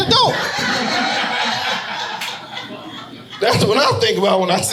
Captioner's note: audience laughing